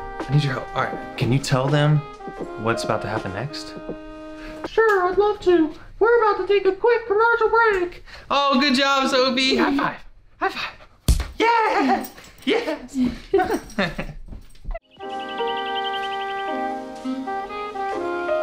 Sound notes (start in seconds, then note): 11.0 smack; 14.8 calm music plays